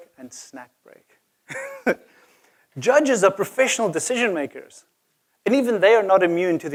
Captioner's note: laugh